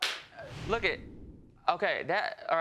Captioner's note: stuttering